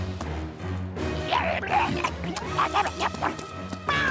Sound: growling

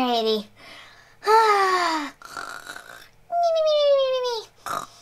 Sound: chipmunks snoring

